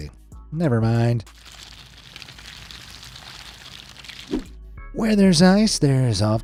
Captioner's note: ice crackling; water gushing